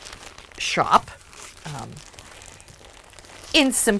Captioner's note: crinkle of plastic